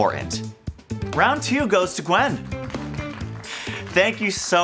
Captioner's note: crowd clapping